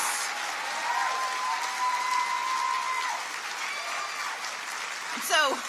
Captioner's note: audience cheers and applauds